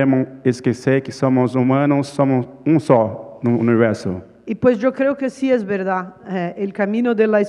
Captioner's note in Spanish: Ponente habla en portugués